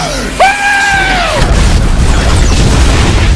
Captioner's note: explosions & Other Loud Noises